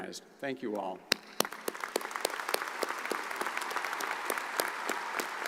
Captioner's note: audience applauds